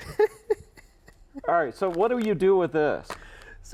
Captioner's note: laughs